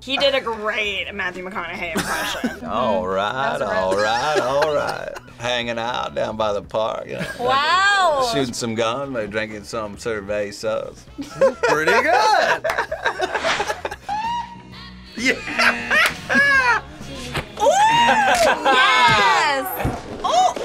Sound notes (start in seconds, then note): 11.3 laughs; 16.7 buzzer; 18.8 laughs